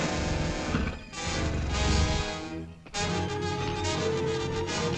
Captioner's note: lion grunting; tense orchestral music